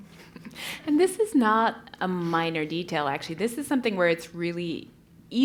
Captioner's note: laugh